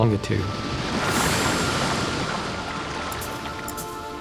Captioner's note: waves crashing; pensive music